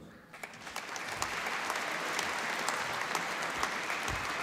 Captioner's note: applause